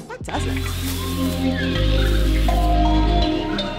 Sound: jungle sounds

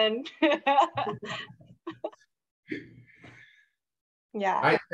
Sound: speakers laughing

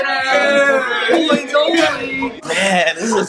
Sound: family cheering

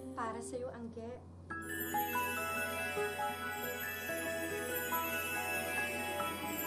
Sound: sparkling sound plays

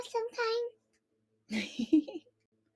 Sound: giggles

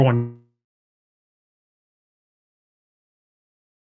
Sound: microphone fades

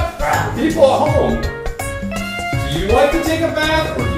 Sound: voiceover

